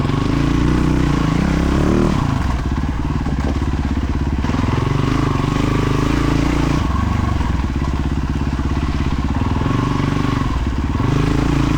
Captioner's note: engine revving